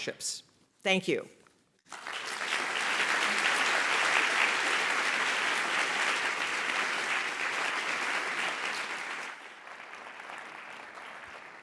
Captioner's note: applause